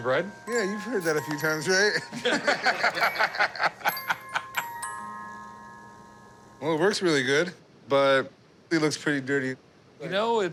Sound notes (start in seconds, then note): 1.9 laughter